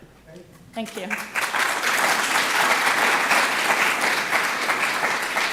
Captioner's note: applause